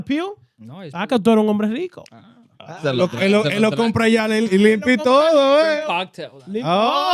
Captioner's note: speaking In Foreign Language